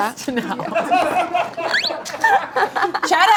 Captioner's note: audience laughs